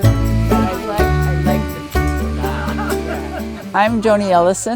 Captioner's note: attendees laughing